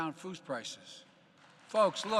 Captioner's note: applause